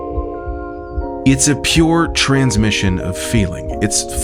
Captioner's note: heartbeats thumping